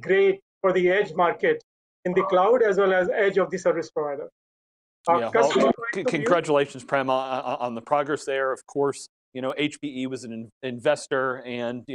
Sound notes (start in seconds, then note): 5.1 murmurs